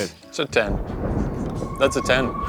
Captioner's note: thunder crashing